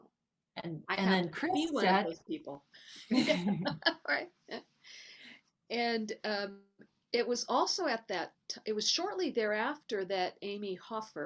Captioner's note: both laugh